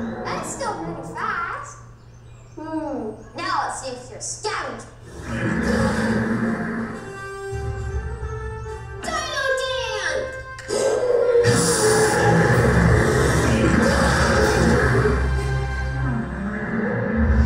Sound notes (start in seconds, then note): 5.0 dinosaur growls; 10.7 dinosaur roars